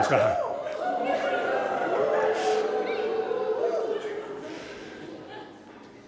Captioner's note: miscellaneous whooping